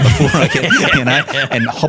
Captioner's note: all laughing